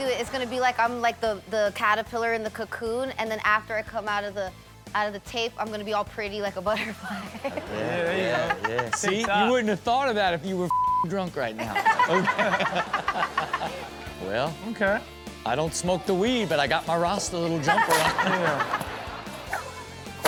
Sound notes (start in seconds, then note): 6.8 laughs; 10.7 beep; 11.6 Chanel laughing; 17.5 Chanel and audience laughing